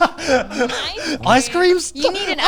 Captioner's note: laughing